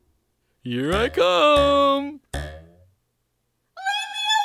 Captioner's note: boing boing